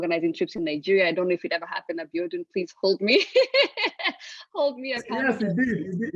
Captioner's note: laugh